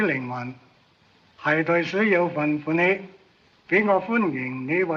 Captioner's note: speaks chinese